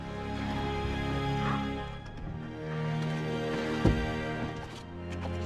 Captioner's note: whispers